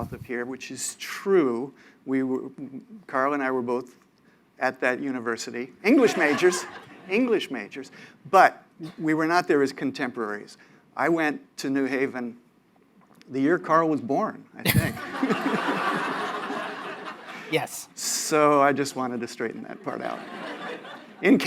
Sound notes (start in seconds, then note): 14.6 laughter